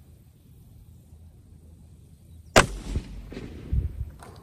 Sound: report of the rifle

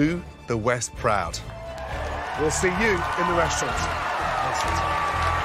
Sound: cheering

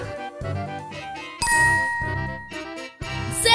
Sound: bell dings

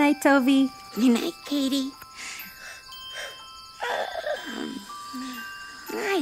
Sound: yawns

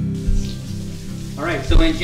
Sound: water faucet running

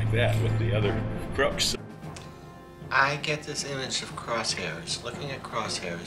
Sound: none

